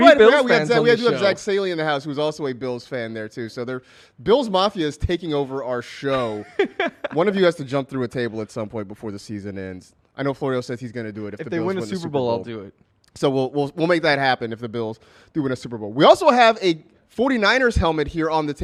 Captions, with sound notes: WE HAD JACK STALEY IN THE HOUSE IS ALSO A BILLS FAN. BILL'S MAFIA IS TAKEN OVER OUR SHOW. [LAUGHS] ONE OF YOU HAS TO JUMP THROUGH A TABLE AT SOME POINT. I KNOW FLORIO SAYS THAT HE DOES. WE WILL MAKE THAT HAPPEN IF THE BILLS DO ONE SUPER BOWL ALSO HAVE A 49ers HELMET HERE ON THE TABLE BECAUSE THERE WAS BIG